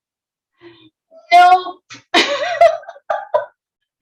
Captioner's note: giggles